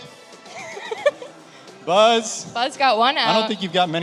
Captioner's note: laughs